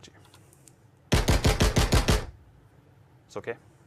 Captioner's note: gunshots